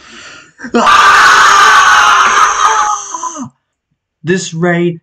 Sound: loud screaming across the room

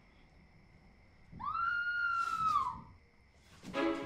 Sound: scream

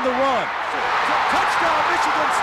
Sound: crowd cheering

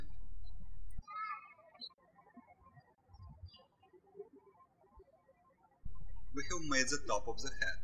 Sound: birds chirping

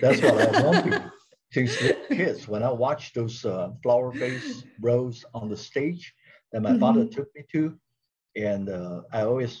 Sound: laughs

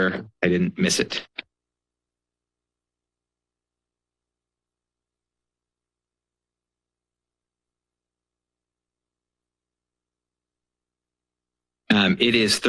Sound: pause

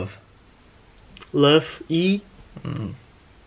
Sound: suddenly lowering the pitch

